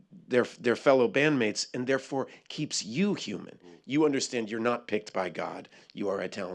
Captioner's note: none